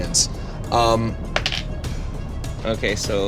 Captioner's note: dice rolling